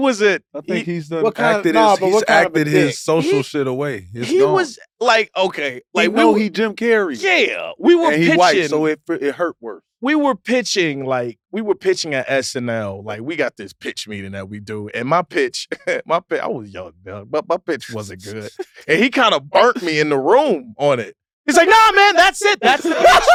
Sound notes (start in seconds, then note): 15.6 chuckles; 22.4 laugh